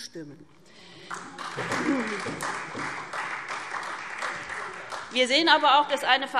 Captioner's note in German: Beifall SPD und Freie Demokraten